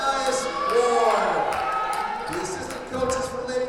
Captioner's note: audience cheers